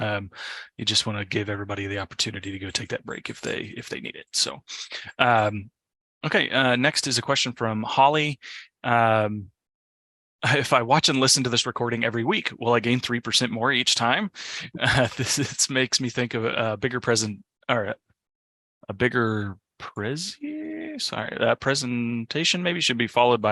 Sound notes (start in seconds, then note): 14.7 laughs